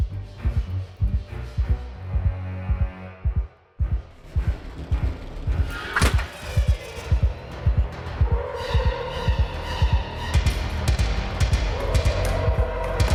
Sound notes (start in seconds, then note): 5.3 glass shattering; 8.9 dramatic music; 11.7 dramatic music